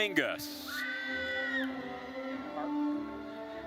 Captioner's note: attendees cheering